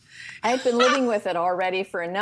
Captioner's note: laughing